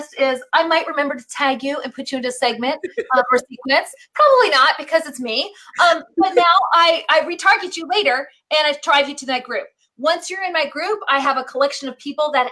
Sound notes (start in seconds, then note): 2.6 laughs